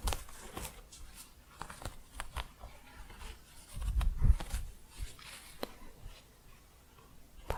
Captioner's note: scratching